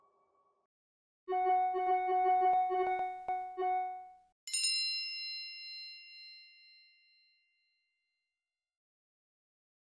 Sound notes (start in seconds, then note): 1.4 cell phones dinging; 4.5 bell chimes